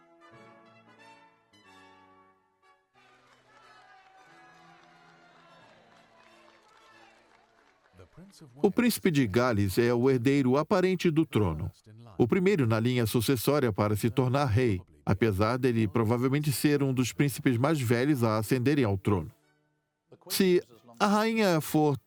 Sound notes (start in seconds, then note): 3.4 crowd cheering; 7.7 voiceover